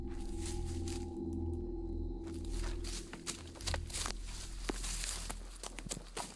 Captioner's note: pattering; rustling